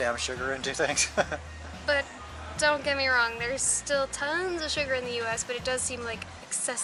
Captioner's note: laughs